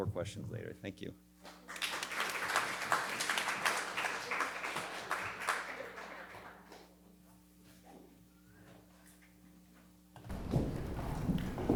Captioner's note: applause